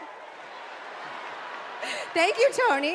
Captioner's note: cheers and applause